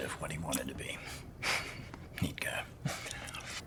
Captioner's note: chuckles